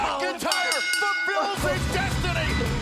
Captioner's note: bell dings